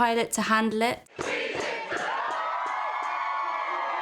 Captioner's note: all cheering